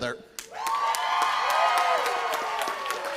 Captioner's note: applause